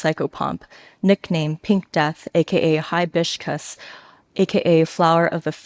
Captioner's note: speaks a foreign language